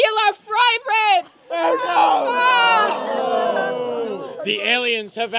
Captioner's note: cheering